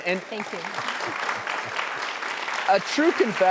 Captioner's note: applause